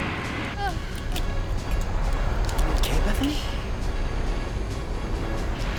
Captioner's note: moaning